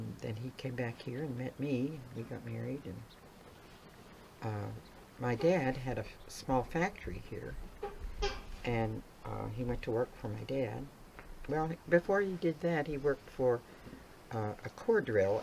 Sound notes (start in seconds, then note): none